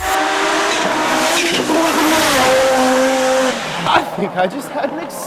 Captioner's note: intense engine roar